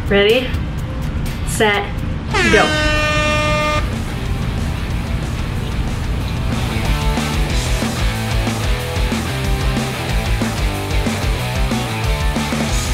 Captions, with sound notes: Ready, set, go. (horns blaring) (upbeat music)